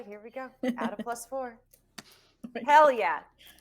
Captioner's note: laughing